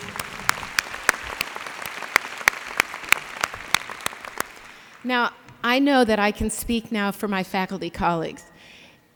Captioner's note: applause